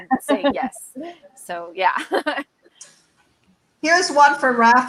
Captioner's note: laughs